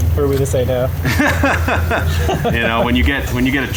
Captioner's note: laughing